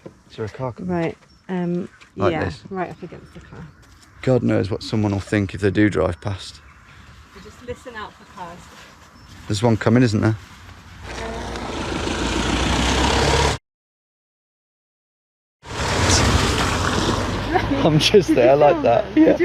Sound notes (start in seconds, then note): 11.1 vehicle engine whirring